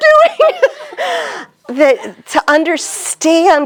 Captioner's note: laughs